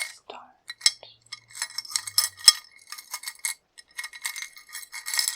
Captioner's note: jewelry clicking